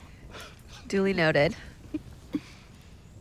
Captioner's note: chuckles